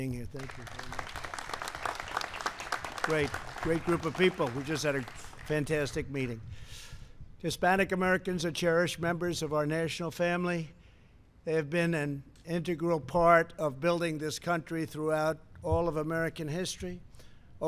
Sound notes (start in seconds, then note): 3.3 applause